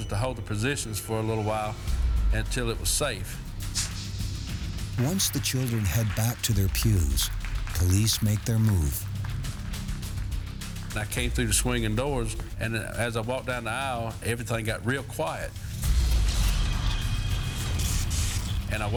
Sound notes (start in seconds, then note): 9.6 audience applauding; 15.6 tense music